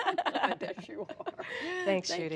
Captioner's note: laughter